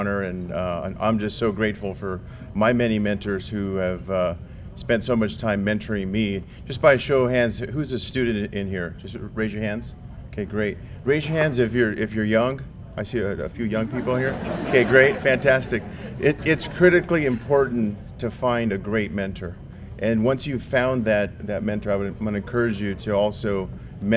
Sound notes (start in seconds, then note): 13.8 laugh